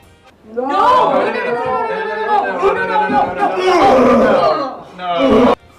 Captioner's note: group of airmen shout no!